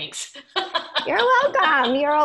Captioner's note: laughing